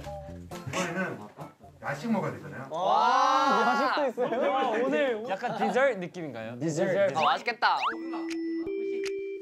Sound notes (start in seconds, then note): 3.0 cheering; 8.4 excited